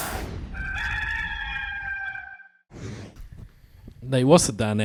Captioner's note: rooster crows